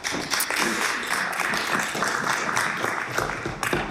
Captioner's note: some Applause